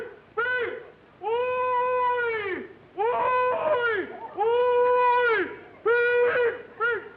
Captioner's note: hollering